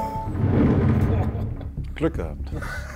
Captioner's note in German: Lachen